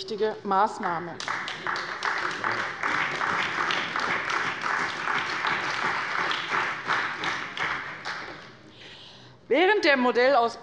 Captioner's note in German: Beifall bei der CDU und dem BÜNDNIS 90/DIE GRÜNEN